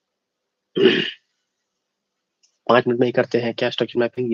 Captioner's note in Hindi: खांसने की आवाज़; गला साफ़ करने की आवाज़